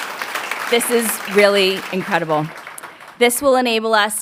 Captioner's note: a pplause